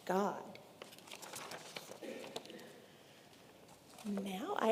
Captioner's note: paper rustling